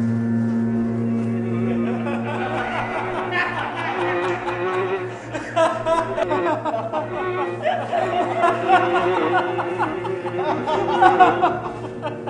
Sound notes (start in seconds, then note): 0.9 all laughing hysterically